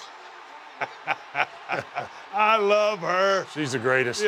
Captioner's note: laugh